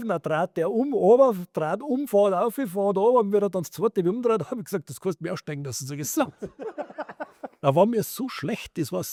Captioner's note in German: gelächter